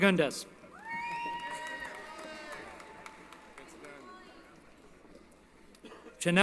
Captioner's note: applause & Cheering